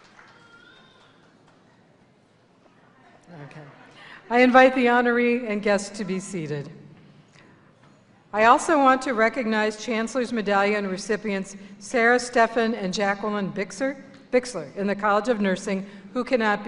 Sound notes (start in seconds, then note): 0.0 cheers of encouragement; 3.2 laughter